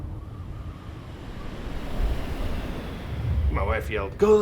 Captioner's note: wind whooshing